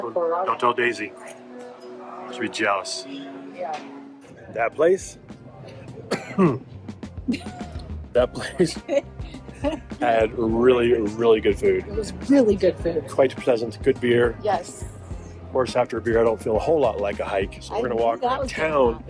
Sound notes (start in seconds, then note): 6.0 coughs; 7.2 chuckling